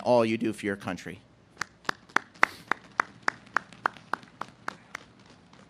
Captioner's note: audience claps